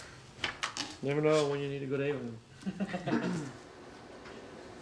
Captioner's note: laughing